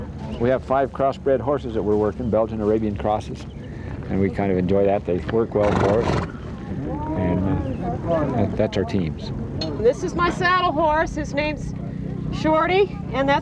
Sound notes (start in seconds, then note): 5.5 horse blows